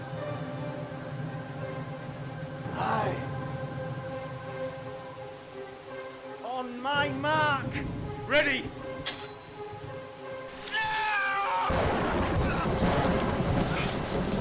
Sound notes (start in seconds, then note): 11.6 loud thunder